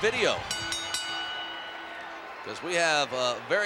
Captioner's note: bell dings